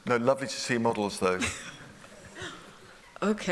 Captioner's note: laughter